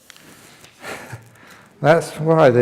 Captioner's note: chuckle